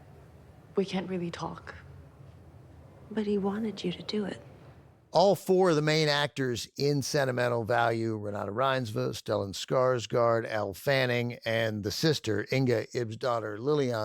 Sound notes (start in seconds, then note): none